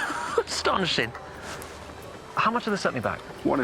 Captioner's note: laughs